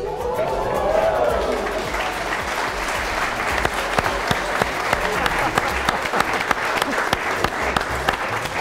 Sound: hands clapping

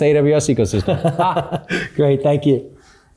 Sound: both laughing

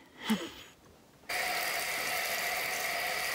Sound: running water

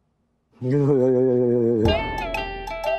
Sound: shivering sound

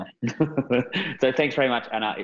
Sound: both laughing

